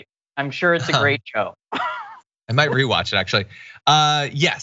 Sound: laugh

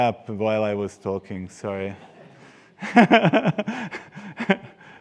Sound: laughs

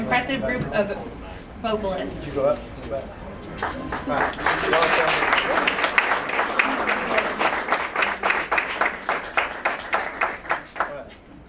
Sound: applause

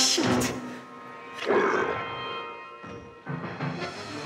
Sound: Donald growls; dramatic music

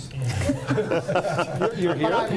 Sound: laughter

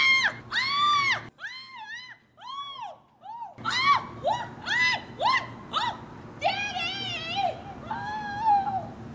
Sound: SCREAMS from Lizzie Lovejoy

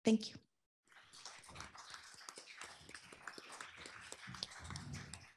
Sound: applause

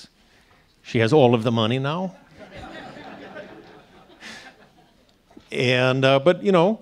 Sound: audience laughing

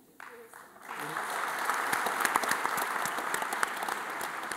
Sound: audience applauding

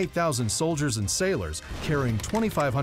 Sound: cannons booming

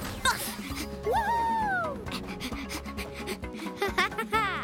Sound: panting; chuckling

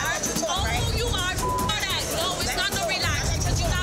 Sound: people arguing

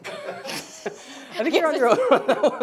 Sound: laughing

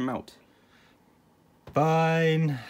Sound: sigh

